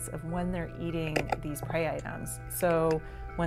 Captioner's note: clam crushing